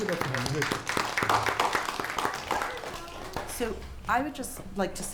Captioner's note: applause